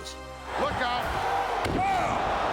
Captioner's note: applause